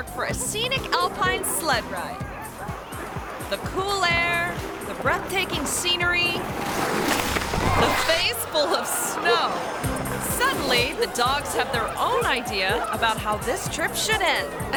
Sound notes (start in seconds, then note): 2.2 dog barking; 2.2 people chattering; 6.6 sled scratching; 7.1 sledder thuds; 9.8 upbeat bright music